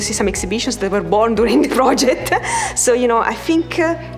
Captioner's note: laughs